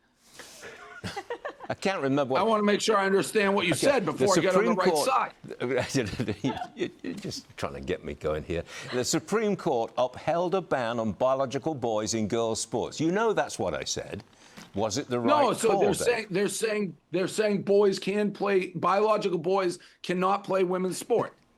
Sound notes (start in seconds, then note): 5.8 laughter